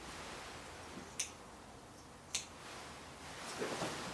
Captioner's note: scissors snipping